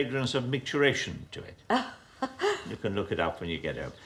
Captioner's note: woman laughing